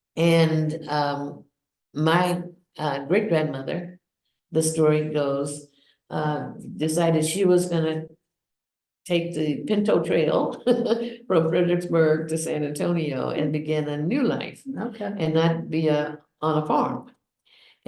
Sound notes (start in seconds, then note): 10.5 laughs